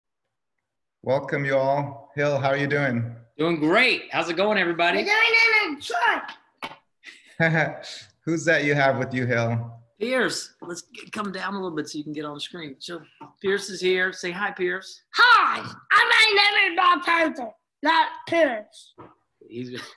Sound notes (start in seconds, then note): 7.1 laughs